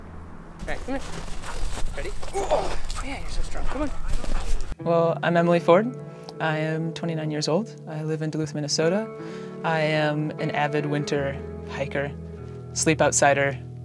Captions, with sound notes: - Okay, come here, ready? (exhaling) Yeah, you're so strong, come on. Well, I'm Emily Ford. I am 29 years old, I live in Duluth, Minnesota. I am an avid winter hiker, sleep outside-er,